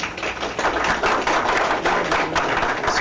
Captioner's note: applause